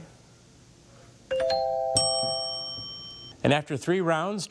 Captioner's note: bell chimes